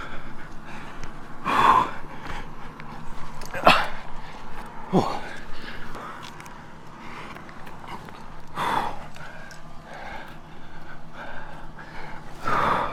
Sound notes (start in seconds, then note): 1.3 breathing Hard & Grunting